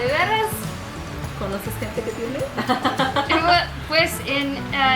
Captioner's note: laughter